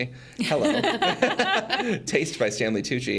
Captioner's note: group laughs